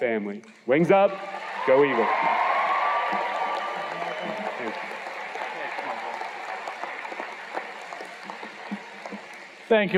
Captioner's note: cheers and Applause